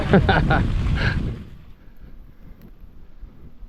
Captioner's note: laughs